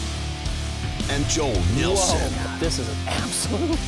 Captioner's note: voiceover